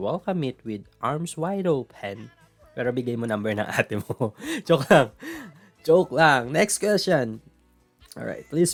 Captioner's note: laugh